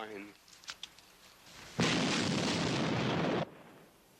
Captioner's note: flask booming